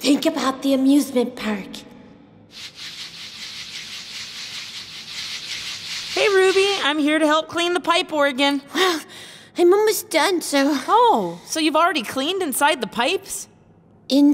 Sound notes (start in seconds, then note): 2.5 scrubbing; 9.0 sighs heavily